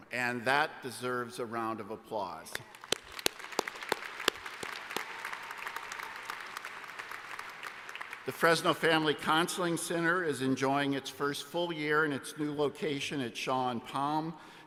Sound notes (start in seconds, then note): 2.6 applause